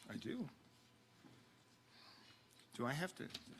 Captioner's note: speaking off mic